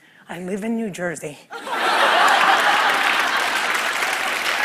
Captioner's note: laughter; applause